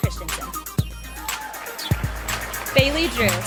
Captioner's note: sound of applause and cheering from the audience